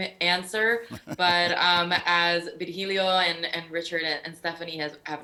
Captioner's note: laughing